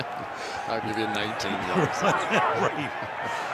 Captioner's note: laughs